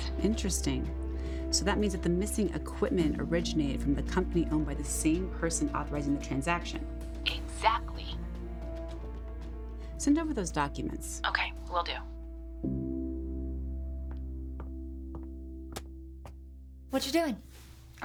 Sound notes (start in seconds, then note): 14.5 footsteps tapping